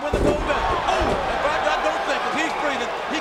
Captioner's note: audience cheers